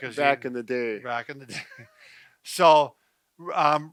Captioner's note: laughing